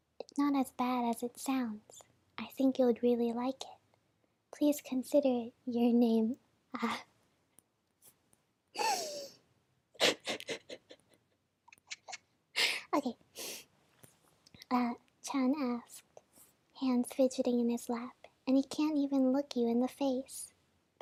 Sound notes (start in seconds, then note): 7.1 silent laughing; 8.6 deepinhale